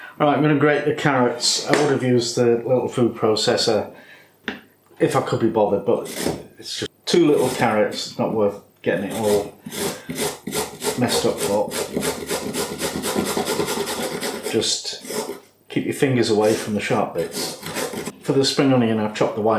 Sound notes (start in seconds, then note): 12.0 grating sound